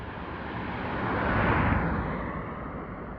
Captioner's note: car races